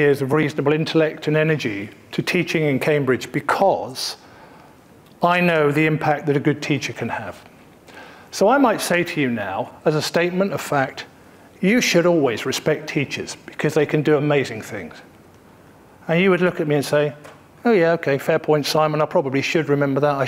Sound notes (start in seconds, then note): none